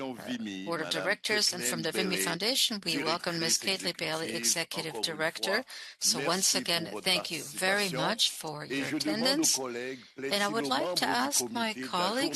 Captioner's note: speaking French